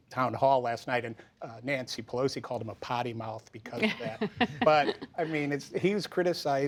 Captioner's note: laughter